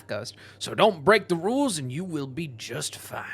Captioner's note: southern accent